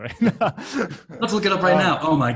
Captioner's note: laughing